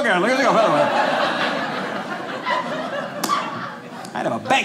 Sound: audience laughing

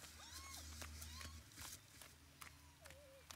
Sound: Julia babbling

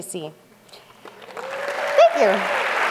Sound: applause

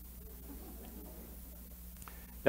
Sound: laughter

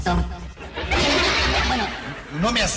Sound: laughs

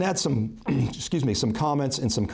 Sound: coughing

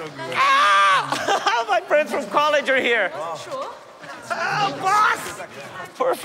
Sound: laughing

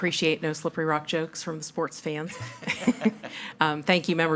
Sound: laughs; audience laughs

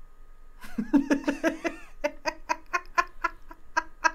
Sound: laughing

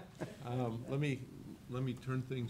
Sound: laughing

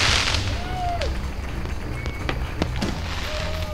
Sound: fireworks; crowd cheers and applause

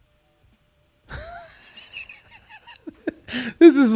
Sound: laughing

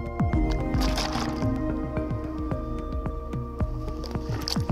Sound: water splashing

